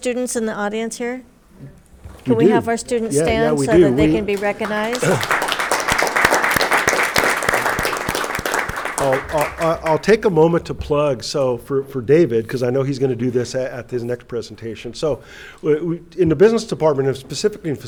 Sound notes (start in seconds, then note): 5.6 audience clapping